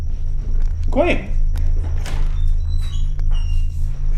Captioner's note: door opening